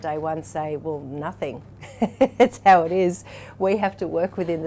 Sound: laughs

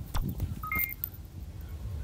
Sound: device chirps

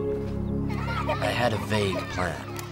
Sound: children laughing

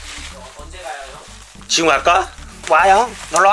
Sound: voice crack lol

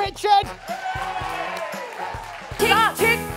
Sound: cheers

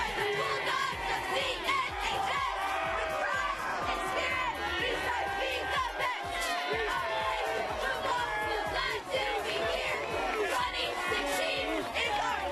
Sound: cheers

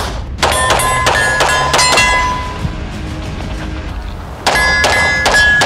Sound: gun shoots; metal targets ding; bell whistles; gun shoots; metal targets ding

